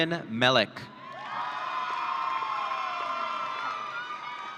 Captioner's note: audience cheering